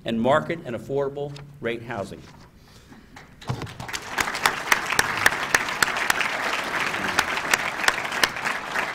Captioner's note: applause